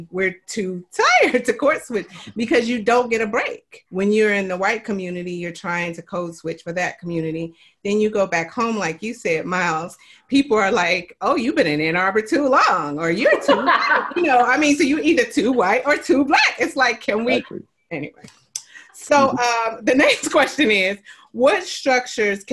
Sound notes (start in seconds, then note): 13.1 laughs